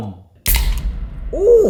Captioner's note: dramatic impact resounds; tab pops